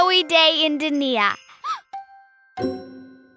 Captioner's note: gasping